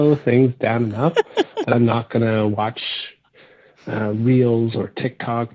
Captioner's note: laughing